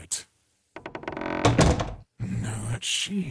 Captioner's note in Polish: Dźwięk skrzypiących i zamykających się drzwi